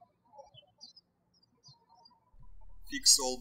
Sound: birds chirping

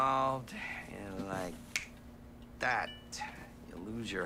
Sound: fingers snaps

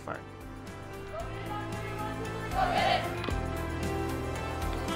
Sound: women chanting; inspiring music

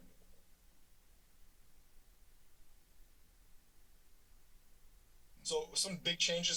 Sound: silence

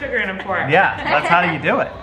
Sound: family laughing

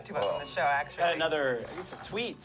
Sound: bell dings

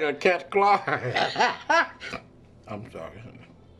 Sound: laughing

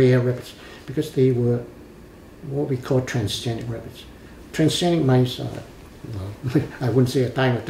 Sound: laughs

